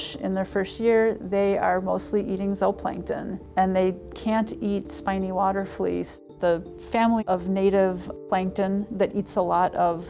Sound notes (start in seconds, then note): none